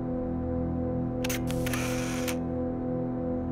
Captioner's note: camera click